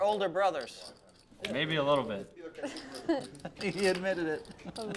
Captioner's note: laugh